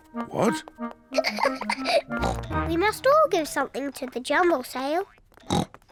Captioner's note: giggles; oinks